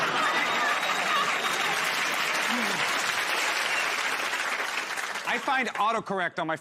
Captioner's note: laughter; applause